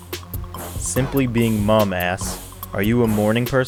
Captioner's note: voiceover